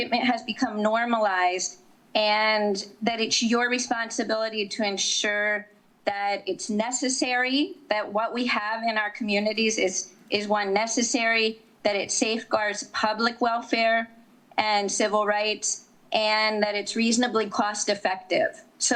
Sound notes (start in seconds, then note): none